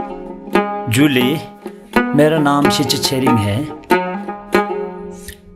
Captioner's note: speaking in a foreign language